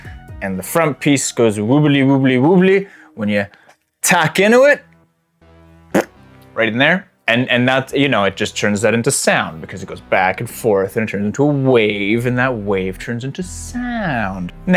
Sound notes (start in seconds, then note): 5.9 fart noise